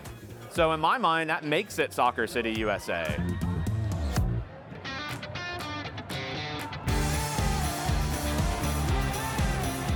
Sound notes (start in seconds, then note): 3.0 crowd shouting; 3.4 upbeat music